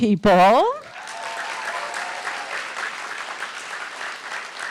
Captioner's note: audience applauding